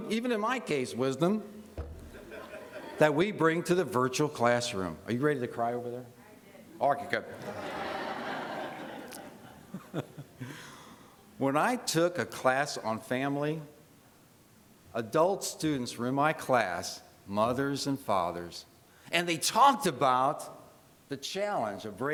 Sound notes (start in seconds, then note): 7.3 laughter